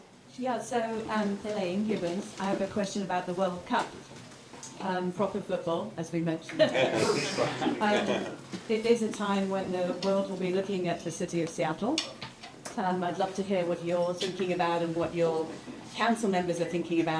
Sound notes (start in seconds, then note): 6.5 laughter